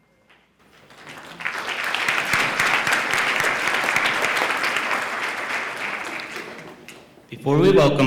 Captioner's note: applause